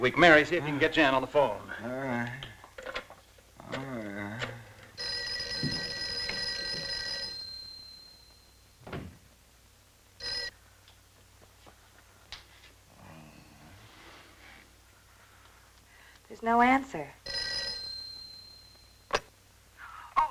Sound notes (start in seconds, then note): 3.5 groaning; 4.9 phone ringing; 17.2 phone ringing